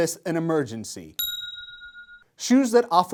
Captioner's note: bell noise